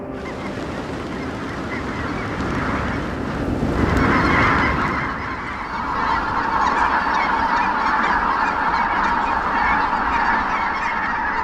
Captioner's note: bird calls, rush of wings